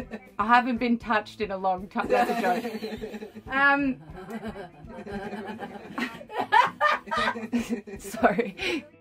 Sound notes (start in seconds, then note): 2.0 laughs; 4.2 everyone laughs